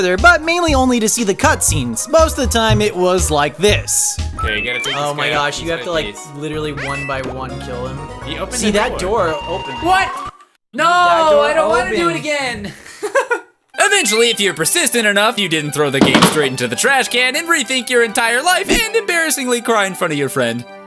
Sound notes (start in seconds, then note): 12.7 laughs